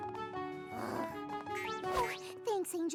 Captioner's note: sighs